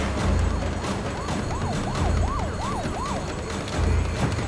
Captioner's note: sirens blaring